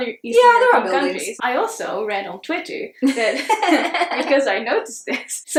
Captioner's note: chuckles